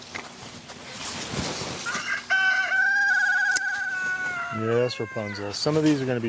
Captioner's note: Rapunzel Rooster crowing